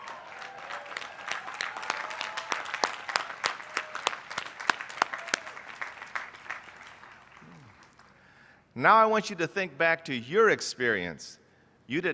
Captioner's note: applause